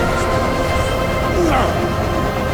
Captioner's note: grunting